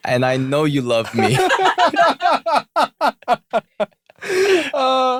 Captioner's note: laughter